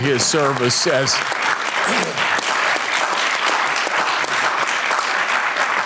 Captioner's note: audience applauding